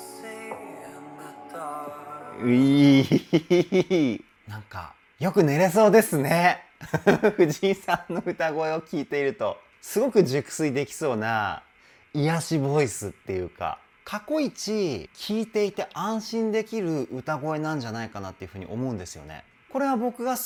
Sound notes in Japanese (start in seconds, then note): 6.9 笑い; 8.0 歌声